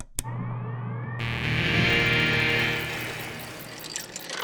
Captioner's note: boot-up sound